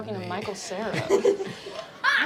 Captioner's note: laughing